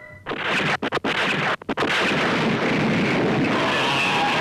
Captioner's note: missiles blasting; monsters screaming